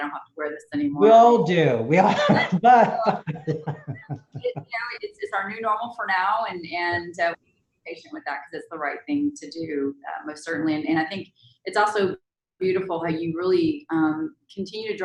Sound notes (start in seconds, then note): 1.9 laughs